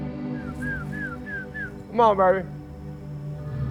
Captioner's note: whistling